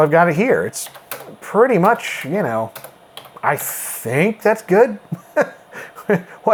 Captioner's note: laughs